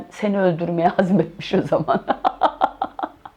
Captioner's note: laughter